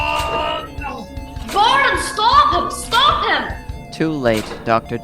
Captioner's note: horrified